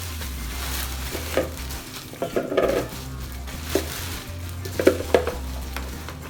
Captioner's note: sound of the bowl and bag making noise